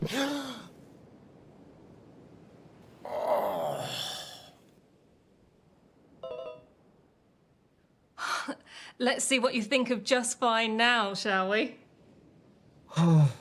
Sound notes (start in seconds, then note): 0.0 Oliver gasping; 3.0 Oliver groaning; 6.5 Oli-o-meter chiming